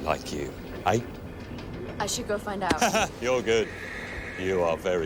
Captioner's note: laughs